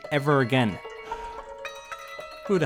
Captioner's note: phone ringing